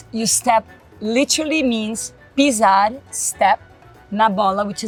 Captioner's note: speaks Portuguese; speaks Portuguese